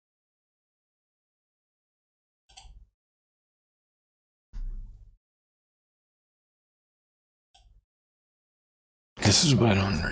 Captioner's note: blank Audio